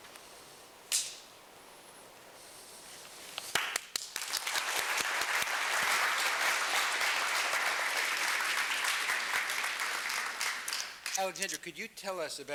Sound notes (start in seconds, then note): 3.5 applause